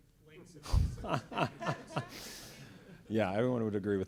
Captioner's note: laughs